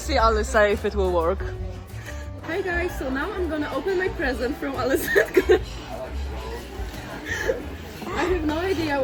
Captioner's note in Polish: śmiech